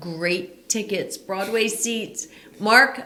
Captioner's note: huffs